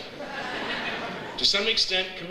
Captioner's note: audience laughs